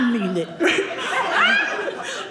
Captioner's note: audience laughing